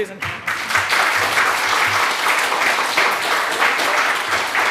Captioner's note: audience applauding